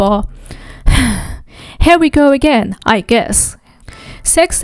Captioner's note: sighs